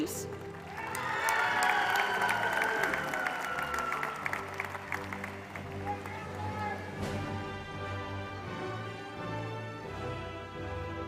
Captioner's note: applause